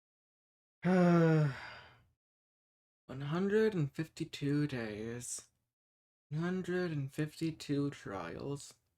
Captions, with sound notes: (sigh) One-hundred-and-fifty-two days one-hundred-and-fifty-two trials